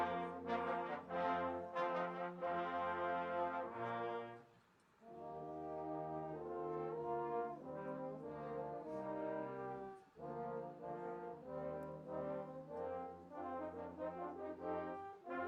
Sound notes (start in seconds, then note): none